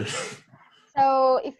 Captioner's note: laughs